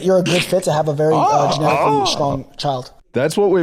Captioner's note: both mimicking